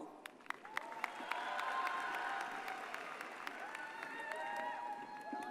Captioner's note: audience cheers and applauds